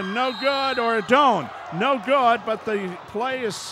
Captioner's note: whistle blows